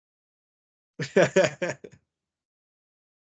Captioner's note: laughs